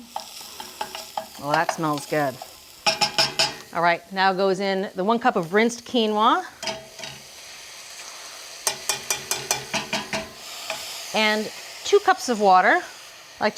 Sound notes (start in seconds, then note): 0.5 scallions sizzling; 2.8 spoon clanging; 8.7 strainer and spoon clanging